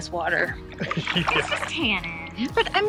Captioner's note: laughing